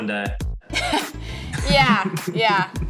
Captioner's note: laughs loudly